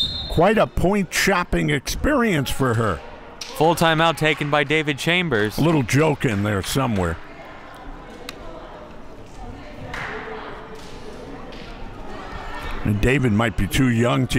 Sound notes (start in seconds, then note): 7.8 crowd murmuring